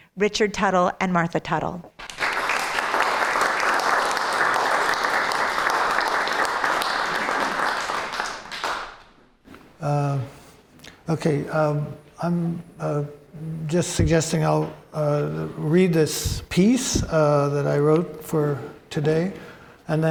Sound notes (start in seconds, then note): 2.0 applause